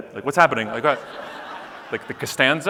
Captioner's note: audience laughing